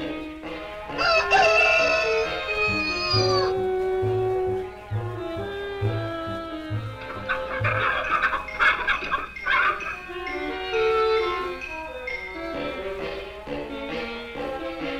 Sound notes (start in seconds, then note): 0.9 Pete crowing; 6.7 clucking